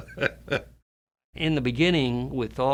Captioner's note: laughs